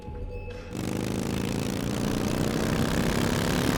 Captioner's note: motorcycle engine roars